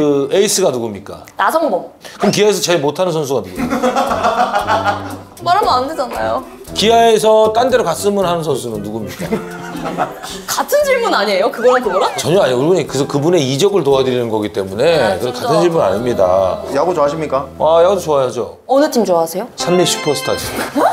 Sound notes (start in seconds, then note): 3.6 hahahaha; 9.2 bwahaha